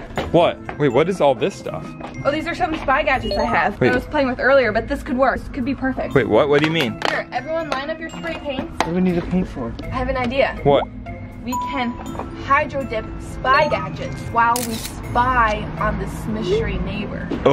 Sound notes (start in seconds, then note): 3.2 electronic beep; 11.4 ding; 13.6 electronic beep; 14.5 camera shutter clicks